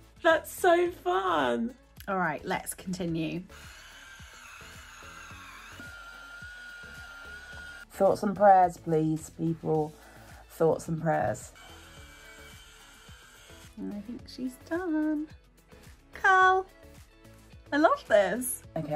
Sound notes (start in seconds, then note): 3.5 curlers whirring; 10.8 curler whirring